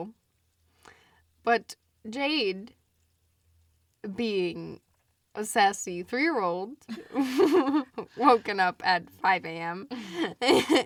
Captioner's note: both laugh